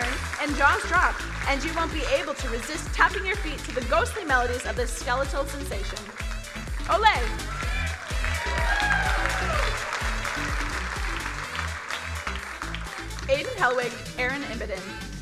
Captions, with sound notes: and jaws drop and you won't be able to resist tapping your feet to the ghostly melodies of the skeletal sensation. Ole. (crowd cheering and applauding) Aidan Helwig, Erin Imboden,